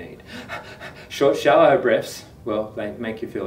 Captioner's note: pants